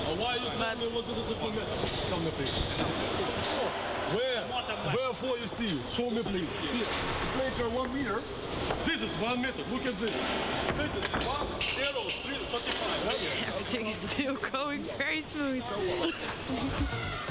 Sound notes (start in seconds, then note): 1.1 speaks in foreign language